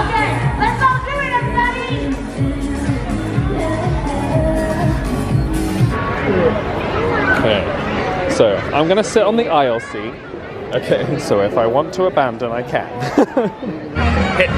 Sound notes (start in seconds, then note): 0.0 upbeat pop music; 6.1 audience atmosphere buzzing; 13.0 laughs